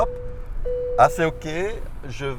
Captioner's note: bip